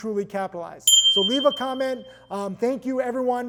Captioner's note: bell ringing